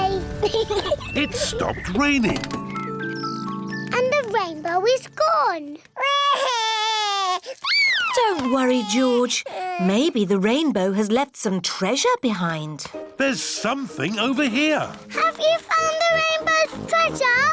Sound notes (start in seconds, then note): 0.4 peppa pig laughs; 6.0 cries